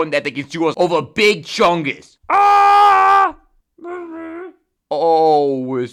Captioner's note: whisper